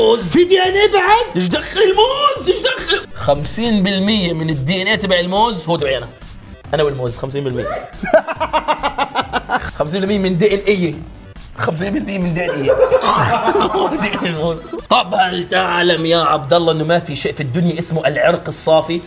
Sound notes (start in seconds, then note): 7.6 laughing; 12.2 laughing; 13.1 chomp